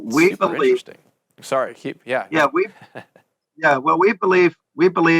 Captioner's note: chuckles